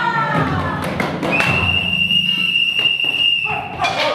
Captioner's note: Master Jones' whistle blows